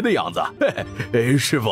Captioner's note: laughter